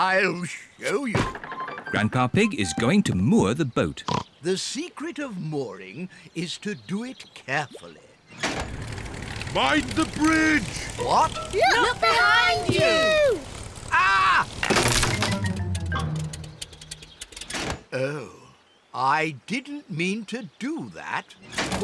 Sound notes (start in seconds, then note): 4.0 oinks; 15.1 crunching